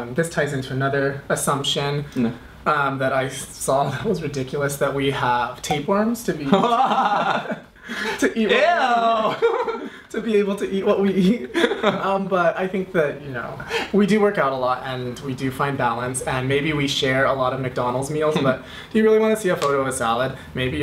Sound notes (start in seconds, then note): 6.4 laughs